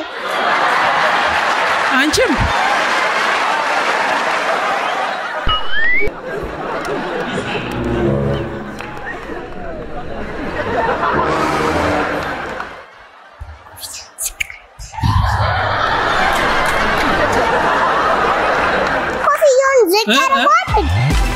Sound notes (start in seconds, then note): 0.1 laughter; 2.5 laughter and applause; 15.0 laughter